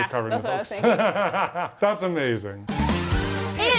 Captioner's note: laughs